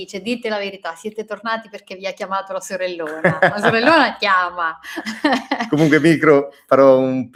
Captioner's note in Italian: risate